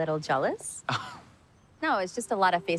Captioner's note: Dani scoffs